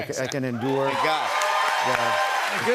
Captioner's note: cheers and applause